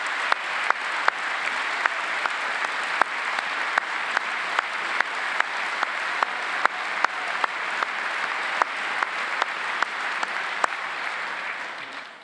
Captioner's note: applause